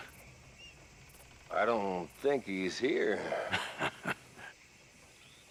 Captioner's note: laughs